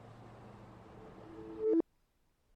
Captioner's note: Horn hangs up, an inverted voice mail beep indicates the end of the message